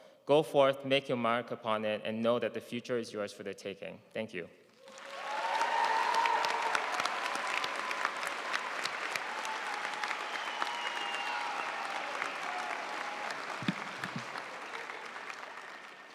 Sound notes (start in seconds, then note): 5.2 audience cheering and applauding